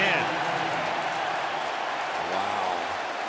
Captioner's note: pa announcement